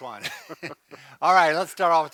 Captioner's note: both chuckle